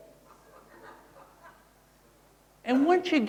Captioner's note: crowd laughing